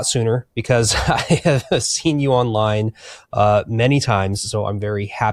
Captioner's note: chuckles